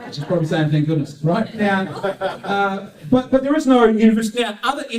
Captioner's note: audience laughs